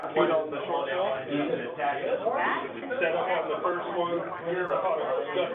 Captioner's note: people chatting indistinctly